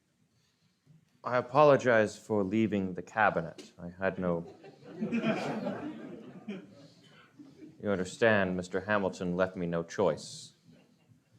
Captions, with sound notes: - I apologize for leaving the cabinet. I had no... (audience laughs) You understand Mr. Hamilton left me no choice.